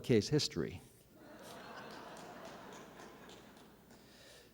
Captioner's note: laughter